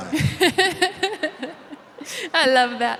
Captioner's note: laughing